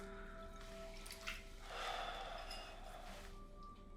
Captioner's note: sigh